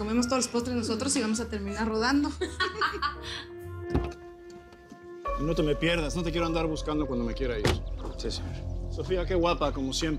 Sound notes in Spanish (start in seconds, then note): 2.3 Risas